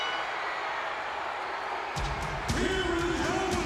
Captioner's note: bell ringing